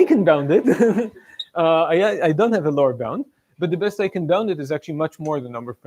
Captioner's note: laughs